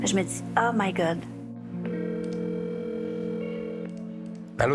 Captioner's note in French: sonnerie de téléphone